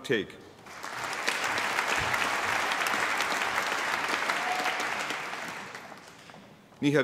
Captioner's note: applause